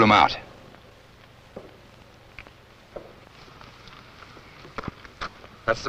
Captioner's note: silence